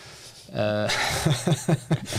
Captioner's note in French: Rires